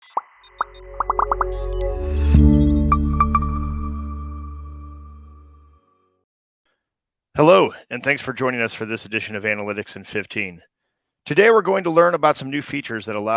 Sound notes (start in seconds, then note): 0.6 bubbles popping; 0.6 gentle music